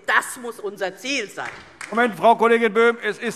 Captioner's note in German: Beifall DIE LINKE - Unruhe